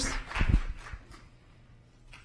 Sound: applause

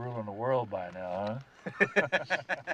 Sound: both laughing

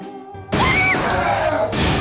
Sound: screaming

